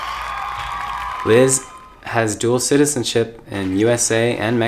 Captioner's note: crowd applause